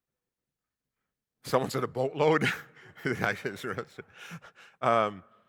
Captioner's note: chuckles